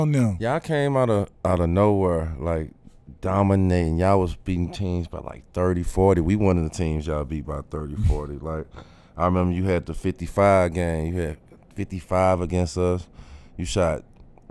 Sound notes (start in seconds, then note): none